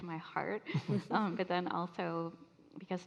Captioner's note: all laughing